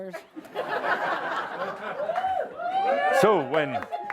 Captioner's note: laughter